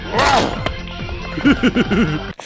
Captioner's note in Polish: śmiech Spejsona